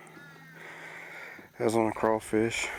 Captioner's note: breathes heavily